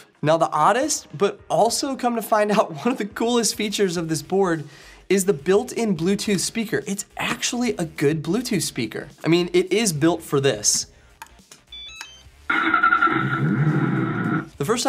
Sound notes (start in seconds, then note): 11.7 beep; 12.6 engine starting